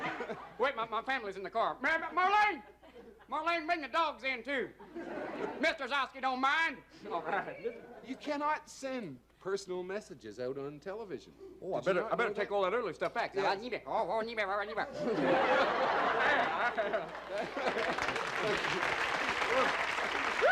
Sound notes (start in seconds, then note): 0.0 laughter; 15.1 vocalizes backward talking; 17.4 laughter; 20.3 applause